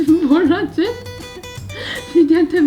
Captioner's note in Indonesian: tertawa